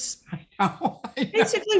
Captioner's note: laughing